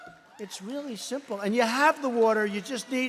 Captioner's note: applause